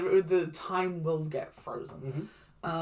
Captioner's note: stutters